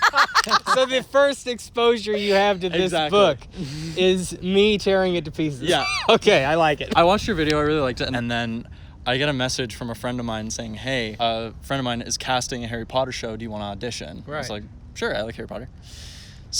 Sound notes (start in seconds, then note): 0.0 laughter; 5.6 laughs